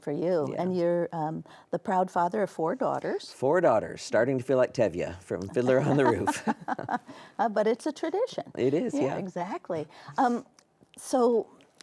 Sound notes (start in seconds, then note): 7.1 both laughing